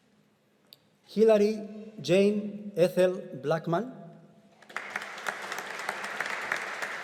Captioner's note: audience applauding